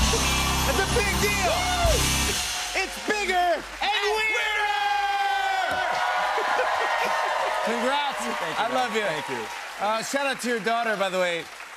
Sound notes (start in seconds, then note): 4.9 cheers and applause